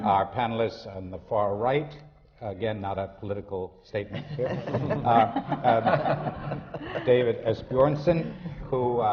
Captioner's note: laughter